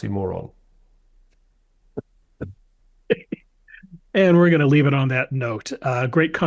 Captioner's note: laugh